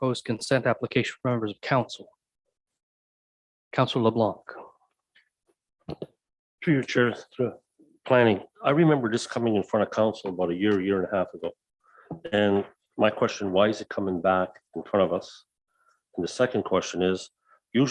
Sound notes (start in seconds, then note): none